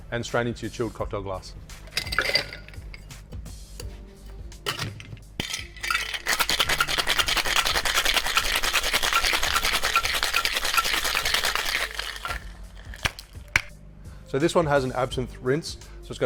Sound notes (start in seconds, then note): 1.9 ice clinks; 4.8 thuds; 5.3 ice clinks; 13.2 thuds